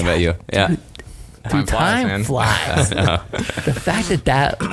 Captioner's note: laughing